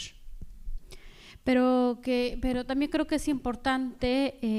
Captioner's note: speaking spanish